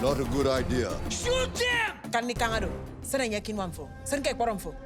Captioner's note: speaking African dialect